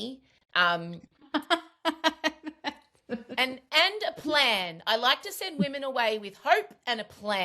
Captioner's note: laughs